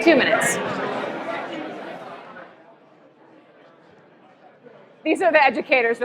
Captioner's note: chatter